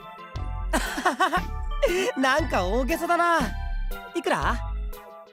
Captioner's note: laugh